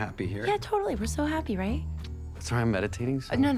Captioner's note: smacks lips